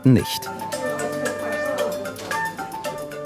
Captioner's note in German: Stimmengewirr